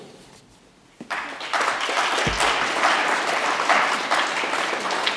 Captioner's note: audience applauds